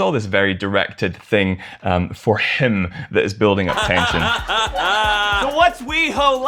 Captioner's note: laughter